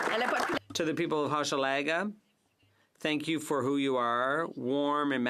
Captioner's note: applause